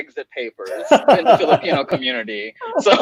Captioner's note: laughing